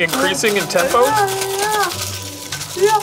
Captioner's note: ice rattling